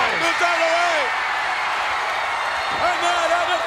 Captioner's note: audience cheers